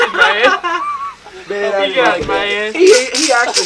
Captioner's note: rattling sounds